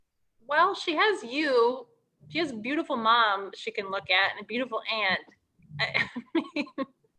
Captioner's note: laughs